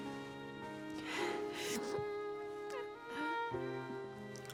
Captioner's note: sobs